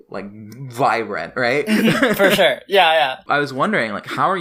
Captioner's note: laughs